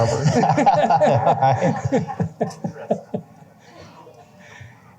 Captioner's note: laughter